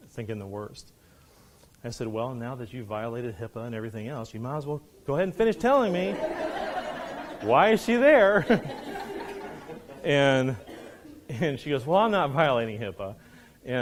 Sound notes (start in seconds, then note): 5.2 students laughing